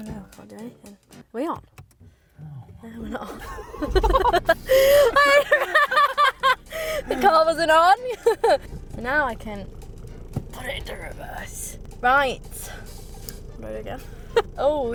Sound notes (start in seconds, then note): 4.6 laughing